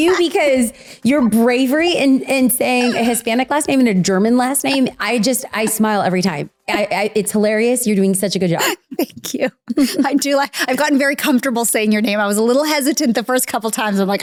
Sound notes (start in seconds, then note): 9.6 laughs